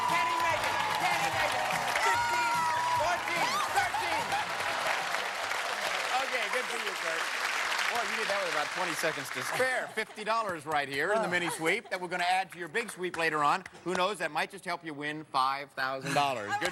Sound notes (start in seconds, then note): 3.4 laughs; 4.6 applause